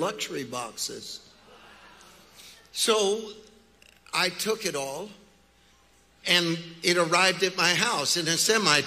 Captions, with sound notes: (congregation chattering) So I took it all, and it arrived at my house in a semi truck.